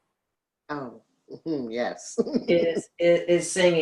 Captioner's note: laughs